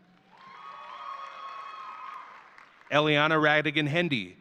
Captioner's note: audience cheering